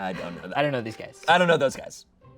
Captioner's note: laughs